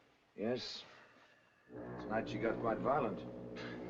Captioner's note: chuckles